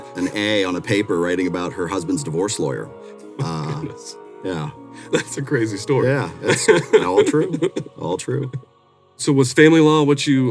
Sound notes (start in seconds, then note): 6.3 laughing